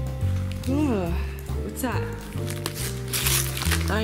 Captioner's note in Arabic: التثاؤب